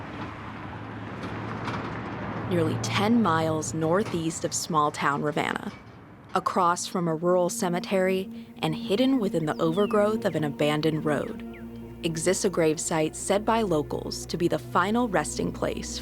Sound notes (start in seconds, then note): 1.6 car whooshing